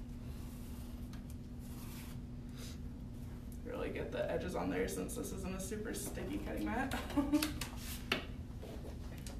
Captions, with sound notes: Really get the edges on there, since this is on a super sticky cutting mat. (laughs)